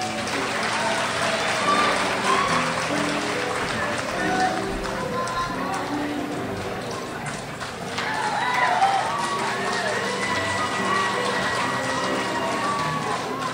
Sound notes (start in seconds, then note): 0.1 crowd applauds; 9.4 crowd cheers